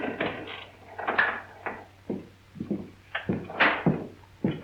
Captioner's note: clapping hands